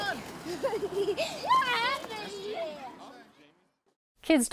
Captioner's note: laughing